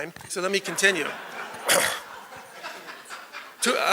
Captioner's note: laughter